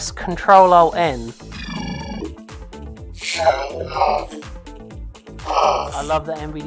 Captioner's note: synthesized voice